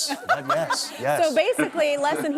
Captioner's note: laughs